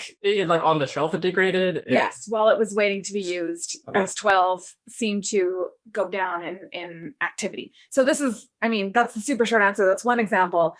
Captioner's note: laughs